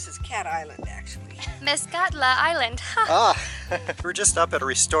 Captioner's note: laughter